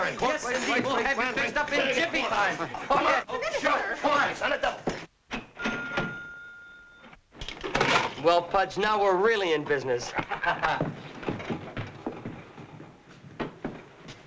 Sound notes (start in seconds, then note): 0.0 all chattering; 5.3 register dinging; 10.1 chuckling